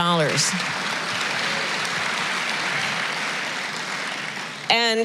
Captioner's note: applause